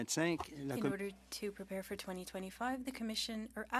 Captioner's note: speaking French